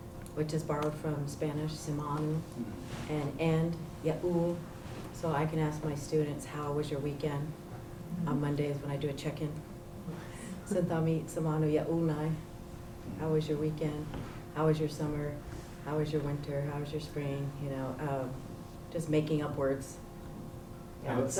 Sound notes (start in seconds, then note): 3.7 non-english; 10.4 non-english